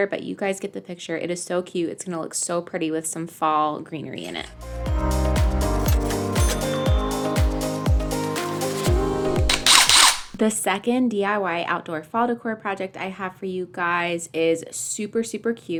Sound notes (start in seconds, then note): 9.4 drill whirs